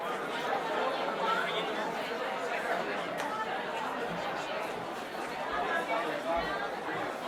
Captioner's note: audience chatter